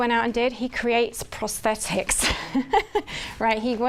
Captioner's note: laughs